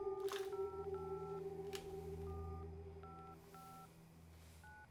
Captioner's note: phone keypad beeping